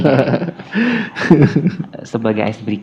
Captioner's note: laugh